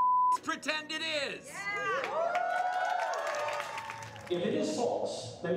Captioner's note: beep; crowd cheering